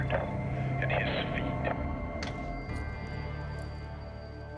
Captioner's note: click